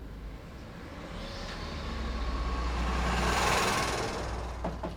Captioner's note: engine rumbling; Ethan knocking